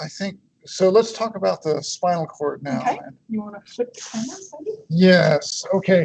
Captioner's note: chuckles